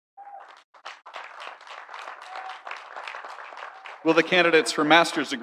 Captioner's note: audience applauding; audience cheering